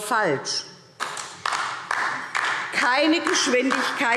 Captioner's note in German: Beifall DIE LINKE